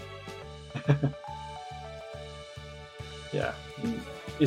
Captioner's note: chuckles